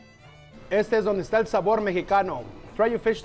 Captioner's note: in Spanish